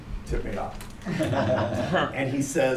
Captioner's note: laughter